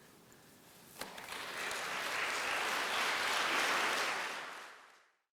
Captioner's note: audience clapping